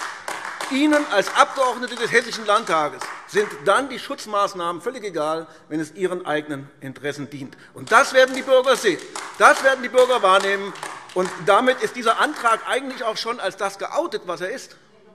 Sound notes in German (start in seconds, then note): 0.0 Beifall AfD; 7.8 Beifall AfD